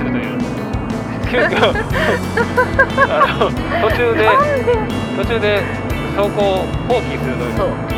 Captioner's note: laughs